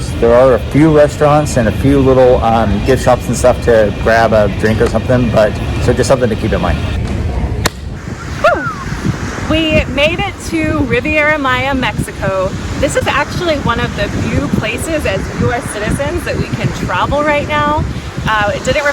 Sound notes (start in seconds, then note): 7.6 clapping hands high five; 8.2 whistle